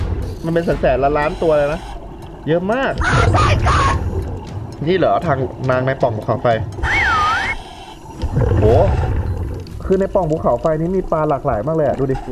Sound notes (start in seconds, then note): 6.8 exhale; 6.9 inhale